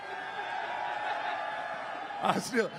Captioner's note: crowd cheering